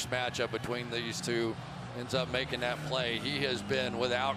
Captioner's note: cheering